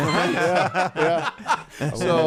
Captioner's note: laughing